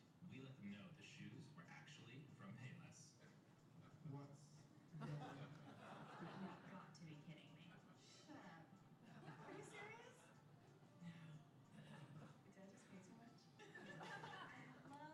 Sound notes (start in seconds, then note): 8.8 laughter